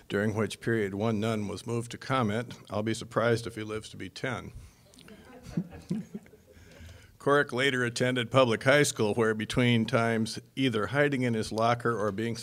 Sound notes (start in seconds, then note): 5.0 audience laughing